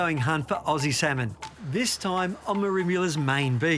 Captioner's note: water burbling